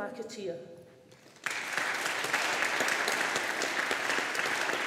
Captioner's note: audience applauding